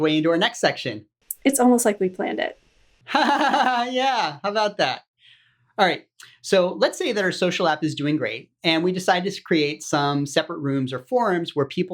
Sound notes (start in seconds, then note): 3.1 laughs